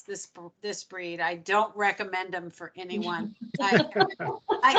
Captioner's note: laughing